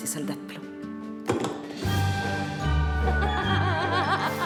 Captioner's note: Elisabeth giggles; soldier thuds; playful music